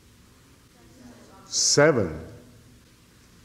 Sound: background chatter

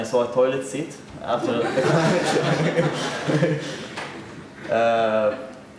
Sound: audience laughter

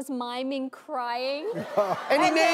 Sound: audience laughing

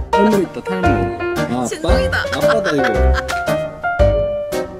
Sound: laughing

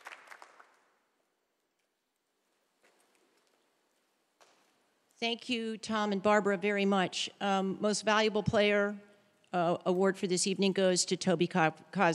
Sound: applause

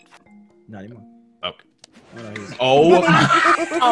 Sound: laugh

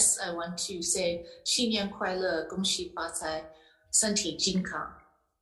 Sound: speaking in Mandarin

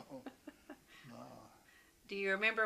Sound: laughter

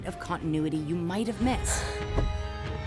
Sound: gasping

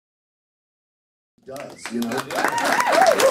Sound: applause

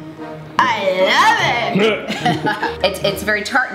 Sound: laughing

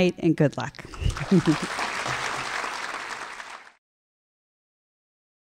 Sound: audience applauds

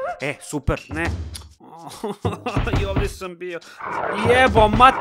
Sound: cries

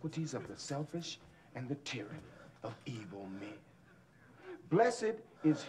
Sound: whimpering continues

